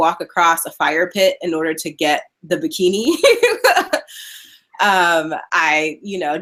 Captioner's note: laughing